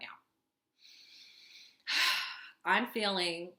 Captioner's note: sigh